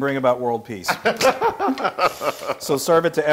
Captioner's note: laugh